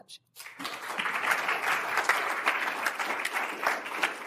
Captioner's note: applause